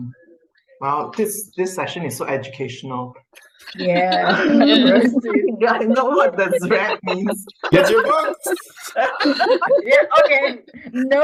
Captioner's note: laughter